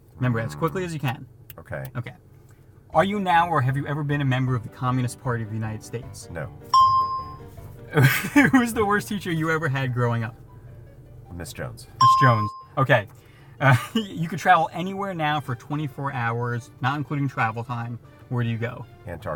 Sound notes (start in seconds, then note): 6.7 energetic music; 6.7 bell rings; 12.0 bell rings; 13.7 chuckles